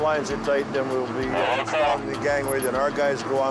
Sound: overlapping chatter

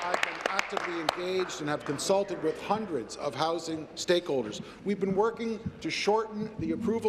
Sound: applause

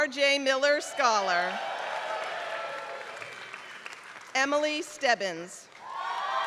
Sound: applause

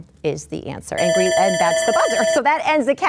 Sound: dinging

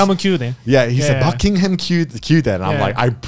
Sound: speaks Japanese; speaks Japanese

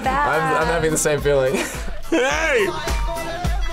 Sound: laughs

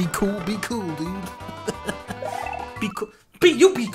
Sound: laughs

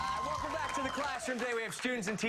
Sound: cheers and applause

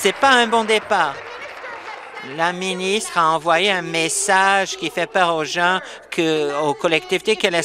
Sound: applause

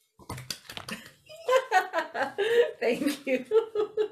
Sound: happy laughter

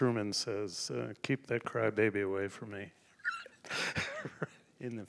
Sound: laughs

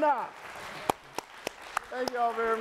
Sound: audience applauding

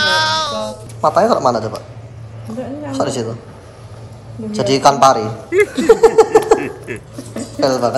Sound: chuckles

